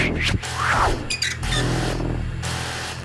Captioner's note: static